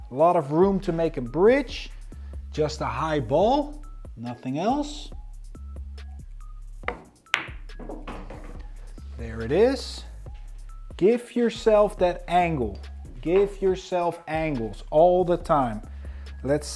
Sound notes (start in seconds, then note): 5.4 upbeat music continues; 6.8 ball bangs